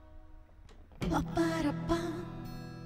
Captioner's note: Door opens